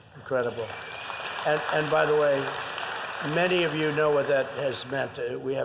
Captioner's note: applause